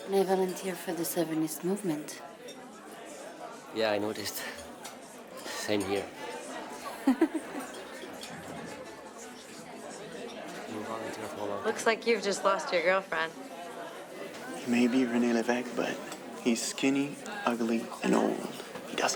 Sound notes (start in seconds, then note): 6.7 Corinne chuckles